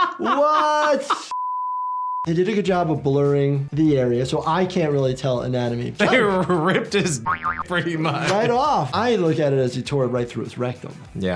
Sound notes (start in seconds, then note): 7.2 graphic boings